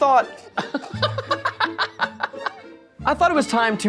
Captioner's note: laughing